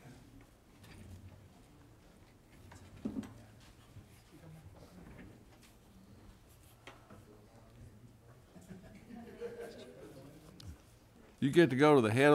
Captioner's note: quiet chatter